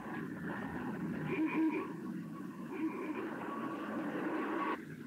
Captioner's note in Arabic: صوت بوق السيارة